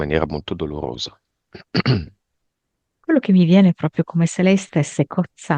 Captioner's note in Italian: schiarire la voce